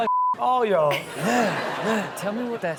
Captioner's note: audience laughing